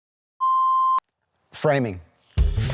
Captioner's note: beep